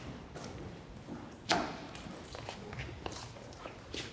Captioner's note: footsteps